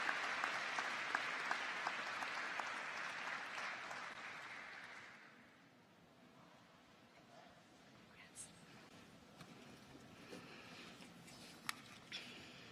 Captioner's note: applause